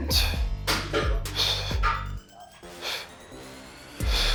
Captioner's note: Jay breathing deeply